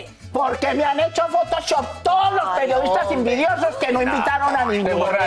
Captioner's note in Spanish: risas